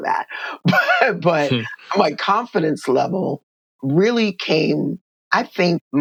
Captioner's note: laughter